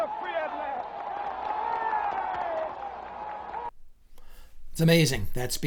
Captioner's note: crowd cheers and claps